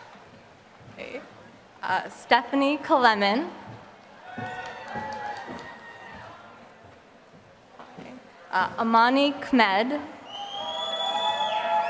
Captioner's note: applause